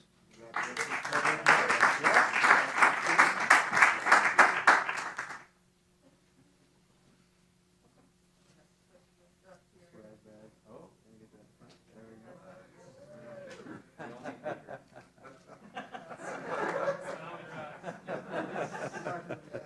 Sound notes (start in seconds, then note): 0.4 applause; 12.9 cheering; 13.5 laughter